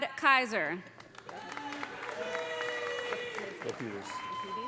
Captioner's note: audience applauding; audience cheering